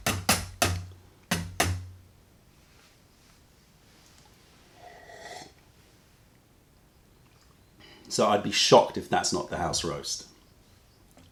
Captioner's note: sips tea